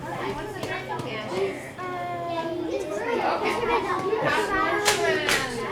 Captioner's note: children chattering